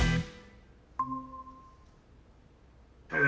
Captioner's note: computer dings